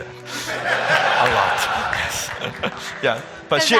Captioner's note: audience laughing